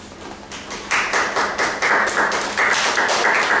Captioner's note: applause